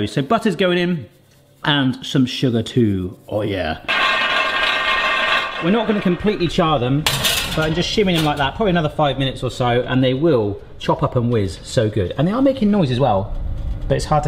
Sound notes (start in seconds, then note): 3.8 hazelnuts clanking